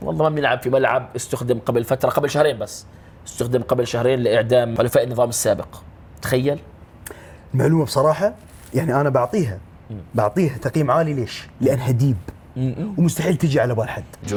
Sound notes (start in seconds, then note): none